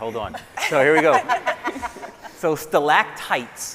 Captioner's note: scientists laughing